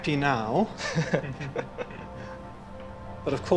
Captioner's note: others laugh